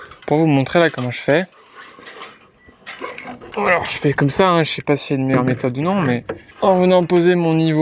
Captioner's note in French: grognement